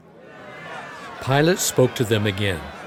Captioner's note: crowd shouting in background